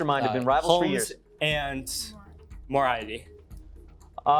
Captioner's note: mispronouncing